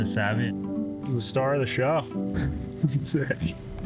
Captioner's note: chuckling